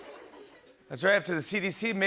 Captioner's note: laughter